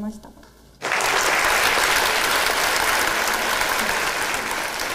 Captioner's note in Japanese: 拍手